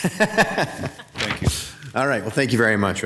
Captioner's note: council member laughs; laughs